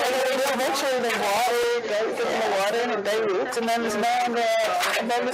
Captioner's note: indistinct chatter